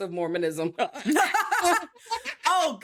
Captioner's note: laughing